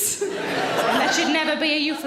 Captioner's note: audience laughing